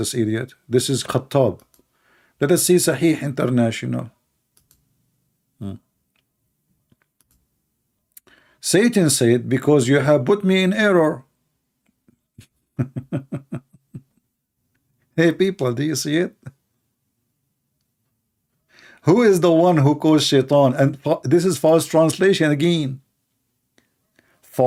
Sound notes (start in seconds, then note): 12.7 Ketawa